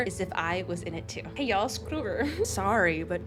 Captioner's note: giggles